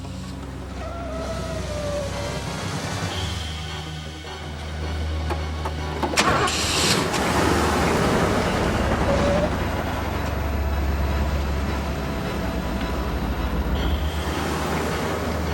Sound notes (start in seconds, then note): 0.8 tires squealing; 4.0 exciting music